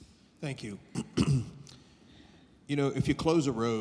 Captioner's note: clears throat